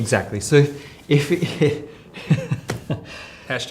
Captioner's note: laughs